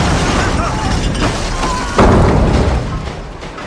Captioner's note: screams